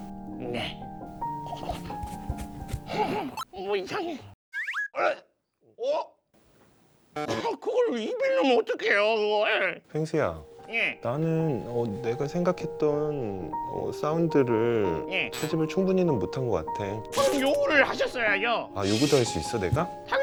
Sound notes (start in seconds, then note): 1.4 brushing